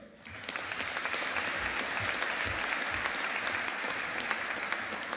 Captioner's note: audience applauding